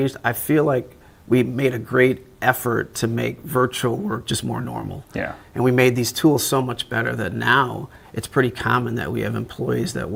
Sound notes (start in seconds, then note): none